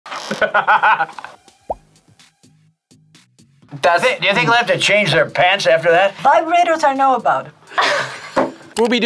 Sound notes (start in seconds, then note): 0.2 laughs; 7.7 laughs